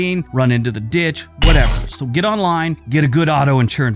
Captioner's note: metal thuds